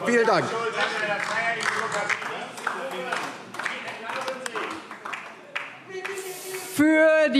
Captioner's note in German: Beifall DIE LINKE, BÜNDNIS 90/DIE GRÜNEN und SPD - Zurufe AfD